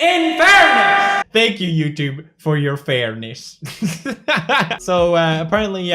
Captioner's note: laughing